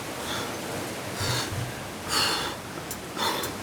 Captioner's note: stressed breathing